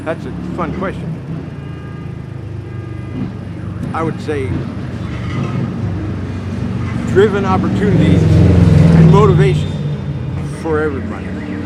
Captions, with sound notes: that's a fun question. (engine revving) (sirens wailing) I would say, driven opportunities and motivation for everybody.